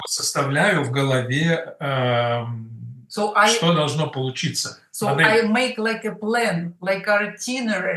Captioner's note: Russian